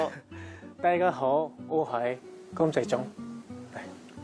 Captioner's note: in Cantonese